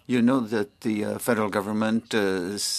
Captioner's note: speaking French